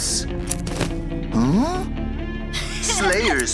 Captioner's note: snipping